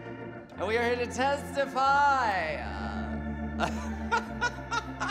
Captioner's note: laughs